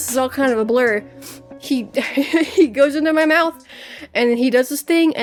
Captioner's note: laughs